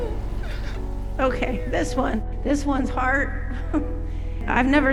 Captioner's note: sighs